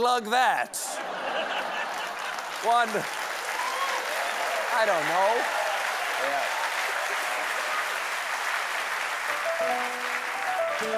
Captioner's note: applause